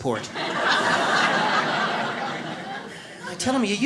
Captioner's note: audience laughs